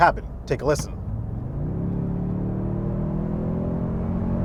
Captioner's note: engine purring